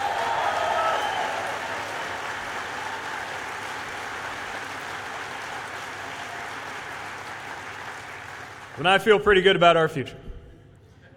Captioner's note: cheers/applause